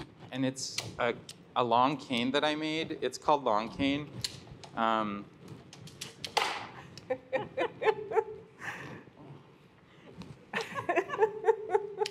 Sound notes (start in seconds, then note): 6.9 laughter